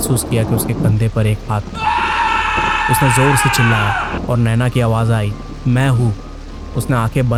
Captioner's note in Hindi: चीखने की आवाज़